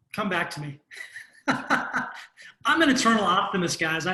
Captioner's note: laughs